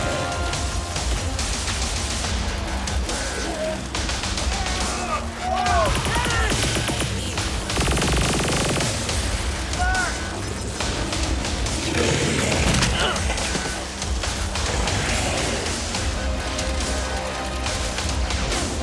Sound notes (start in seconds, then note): 1.2 guns firing; 5.2 men shouting; 10.8 growling